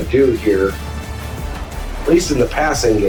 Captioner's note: crowd Noises